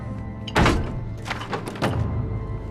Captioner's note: wood crack